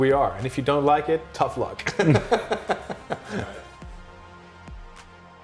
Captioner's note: both laughing